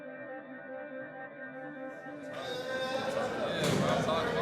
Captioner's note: shouting